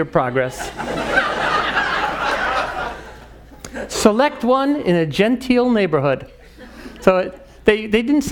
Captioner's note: laugh